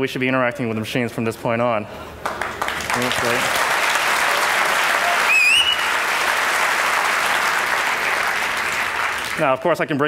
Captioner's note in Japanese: 拍手